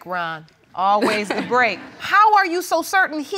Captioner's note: all laughing